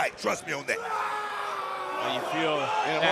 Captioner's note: Inamura screams